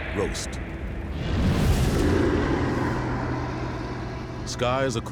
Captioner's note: creatures roaring